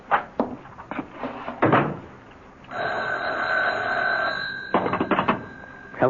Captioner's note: phone rings